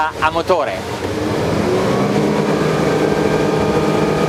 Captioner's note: engine revs